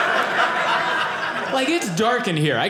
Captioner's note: audience laughing